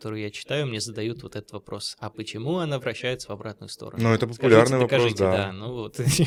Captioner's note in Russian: смех; откашливается